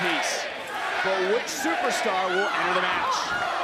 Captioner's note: crowd counts down